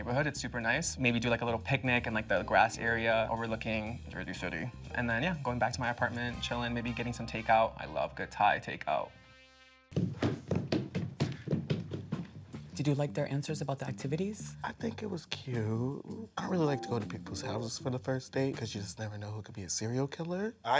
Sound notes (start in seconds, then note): 9.9 shoes knock